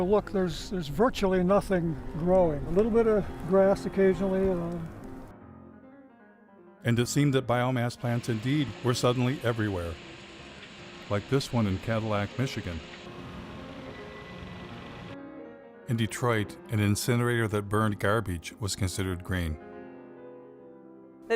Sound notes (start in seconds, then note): 14.0 kamyon motoru gevezelik ediyor; 19.4 klasik piyano müziği